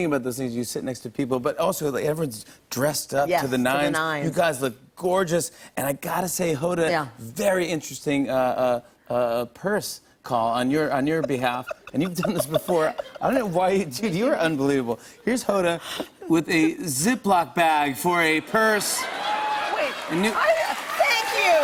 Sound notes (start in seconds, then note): 18.7 laughter, cheers, and applause